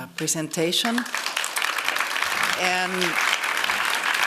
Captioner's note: applause